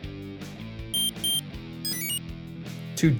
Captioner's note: two short beeps; enter chime